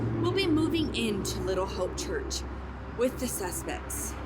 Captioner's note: none